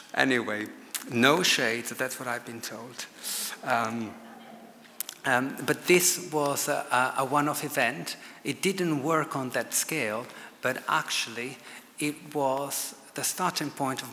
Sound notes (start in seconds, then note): 3.2 audience laughs